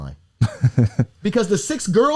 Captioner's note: laughs